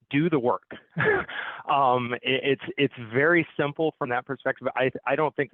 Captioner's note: laughs